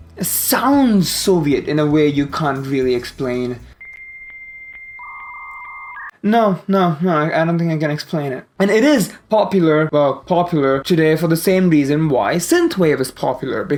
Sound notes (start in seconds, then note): 3.8 dial-up internet tones